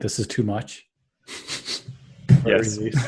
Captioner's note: laughter